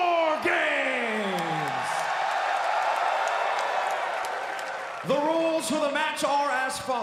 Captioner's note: crowd cheering